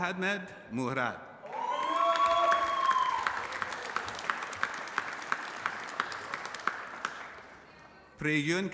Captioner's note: applause